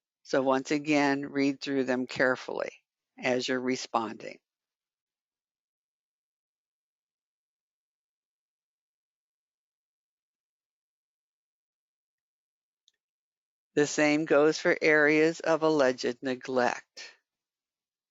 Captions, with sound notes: So once again read through them carefully as you're responding. [8 seconds pause] The same goes for Areas of Alleged Neglect.